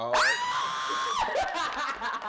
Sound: laughter

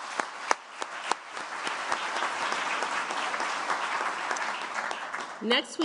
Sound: applause

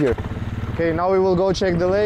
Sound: engine revving

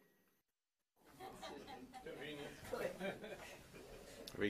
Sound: laughter

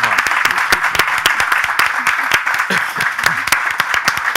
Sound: audience applauding

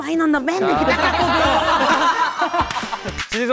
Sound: laughing at the mention of their world star cousin

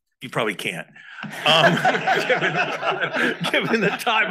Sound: all laugh

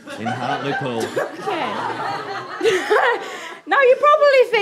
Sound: audience laughter

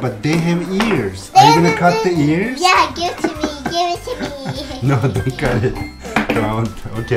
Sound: laughing

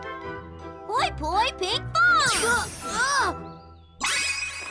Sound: exclaims

